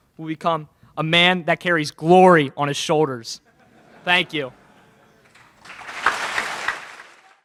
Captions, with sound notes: will became a man that carries Glory on his shoulders. Thank you. (laughter in crowd) (Applause)